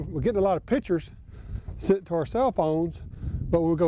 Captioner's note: none